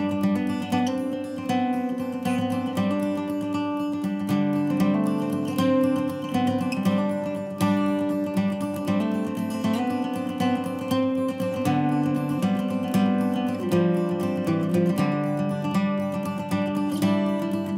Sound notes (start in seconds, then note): none